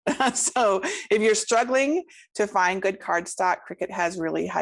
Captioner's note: laughs